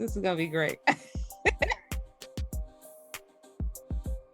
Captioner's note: laugh